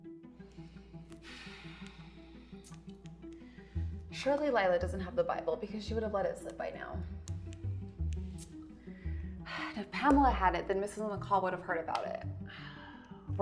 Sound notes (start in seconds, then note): 1.2 Eden sighs